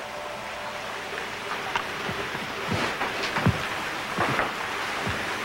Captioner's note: running of shower